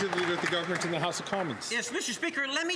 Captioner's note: some Applause